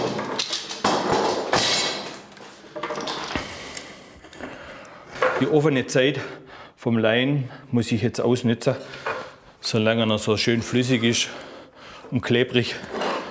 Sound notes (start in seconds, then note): 3.4 noisy exhalation